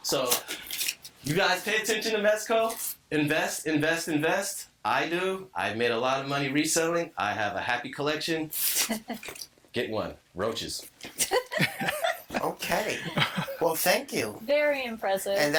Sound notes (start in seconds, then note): 11.0 all laughing; 13.6 laughing